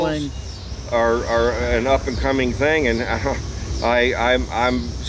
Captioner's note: laughs